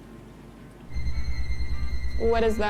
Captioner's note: eerie high tone